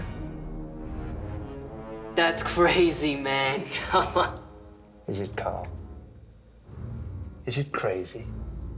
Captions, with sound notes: - That's crazy man. (chuckles) - Is it, Carl? Is it crazy?